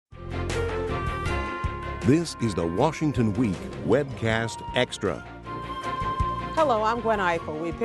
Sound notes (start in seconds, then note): 0.0 upbeat music; 2.4 voiceover